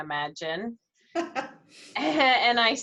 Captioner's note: laughs